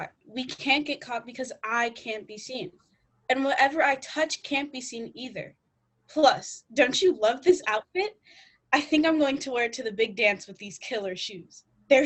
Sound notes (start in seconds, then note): none